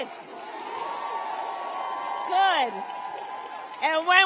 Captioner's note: applause